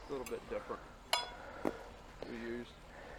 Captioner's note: rail clanks